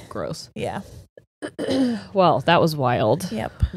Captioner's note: clears throat